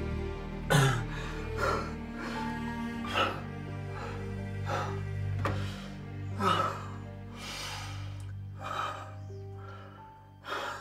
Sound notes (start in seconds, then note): 0.7 Josiah panting